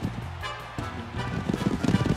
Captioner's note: thudding hooves